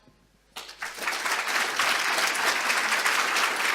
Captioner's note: applause